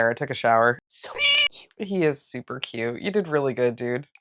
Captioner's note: meow